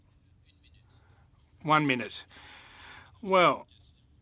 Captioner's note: speaking French